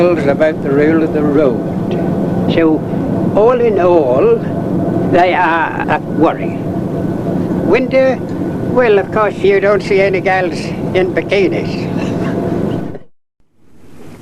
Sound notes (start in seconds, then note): 11.8 laughs